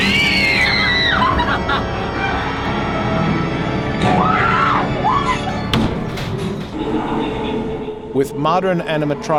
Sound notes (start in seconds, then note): 2.4 screaming